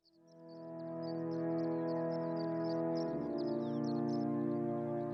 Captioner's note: birds sing